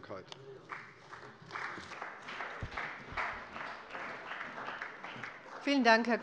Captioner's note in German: Beifall bei der CDU und dem BÜNDNIS 90/DIE GRÜNEN